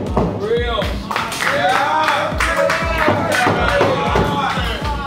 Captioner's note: applause